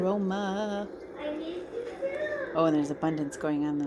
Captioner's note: sweet household sounds increase